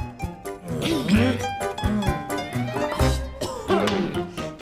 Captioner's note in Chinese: 假咳聲